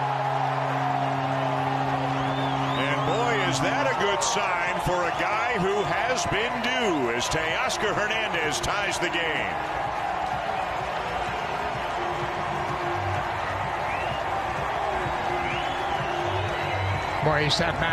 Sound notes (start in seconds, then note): 2.5 horn; 3.1 applause; 4.5 cheering and Applause; 17.1 applause; 17.6 cheering and Applause